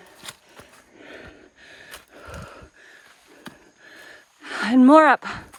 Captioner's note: breathing heavily